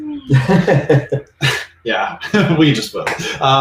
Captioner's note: laughing